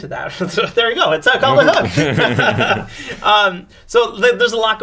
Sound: laughs

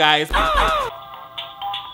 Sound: boy grunts; diary playing music

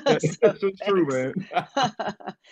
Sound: laughs

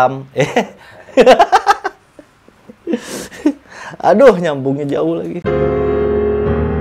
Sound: laughing

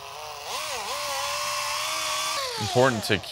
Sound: machine buzzing

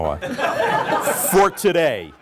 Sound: laughter

